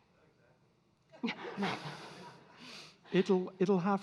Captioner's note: audience laughing